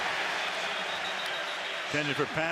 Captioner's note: whistle blows